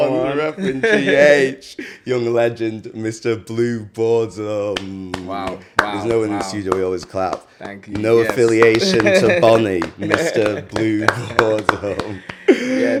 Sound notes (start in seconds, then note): 7.6 clapping; 8.7 laughs; 12.2 laughs